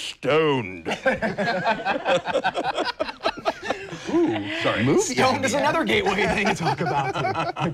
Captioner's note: laughing